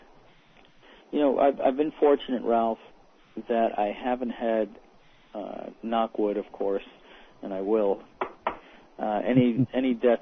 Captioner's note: knock, knock